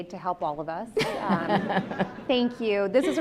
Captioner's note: laughs